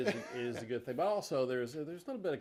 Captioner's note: chuckles